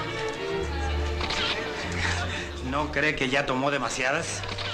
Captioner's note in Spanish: Sonido de la cámara